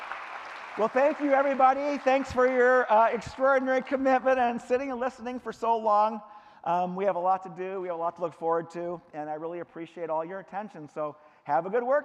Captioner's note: clapping